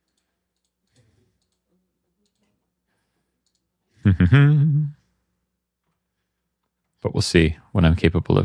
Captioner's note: humming